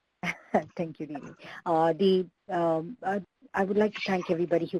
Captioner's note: chuckles